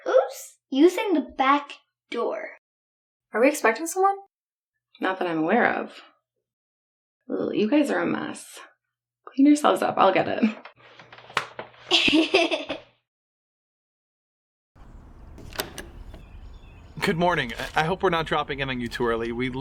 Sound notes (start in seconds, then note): 11.2 Maya smacks her butt; 11.9 Esther laughs